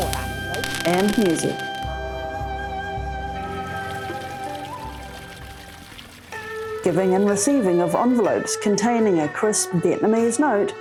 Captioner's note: firecrackers, traditional music plays